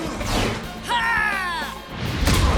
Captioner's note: exclaims